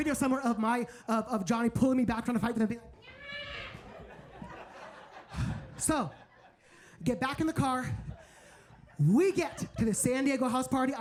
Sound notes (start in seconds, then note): 3.0 screams; 3.6 audience laughs